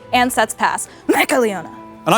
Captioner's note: coughs